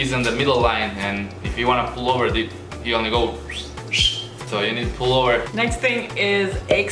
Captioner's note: whistle